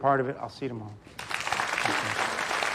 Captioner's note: audience applauding